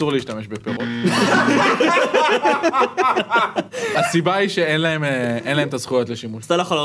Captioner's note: laughs